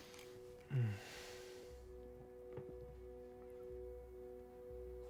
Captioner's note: Malcolm sighs